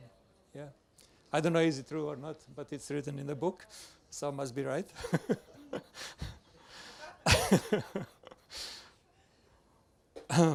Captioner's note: laughs